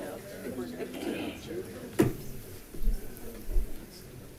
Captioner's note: crowd chatting